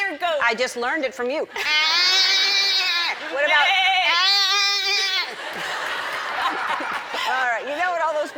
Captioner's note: goat noises